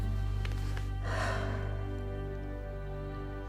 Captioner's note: sighs